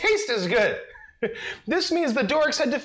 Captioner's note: laughs